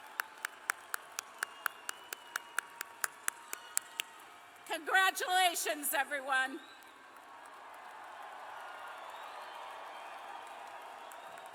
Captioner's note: cheers and applause